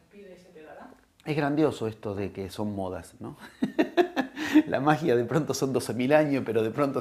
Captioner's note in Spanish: risas